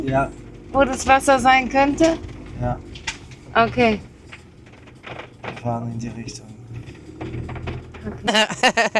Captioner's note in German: gelächter